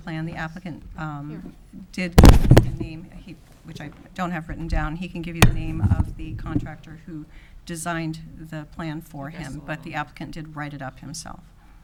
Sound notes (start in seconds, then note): none